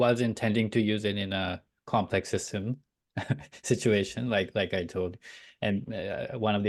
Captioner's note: chuckles